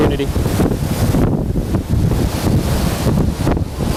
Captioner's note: wind blowing